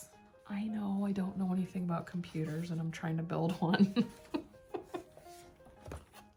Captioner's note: laughter